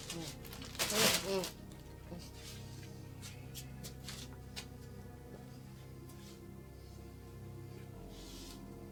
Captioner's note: Alex moans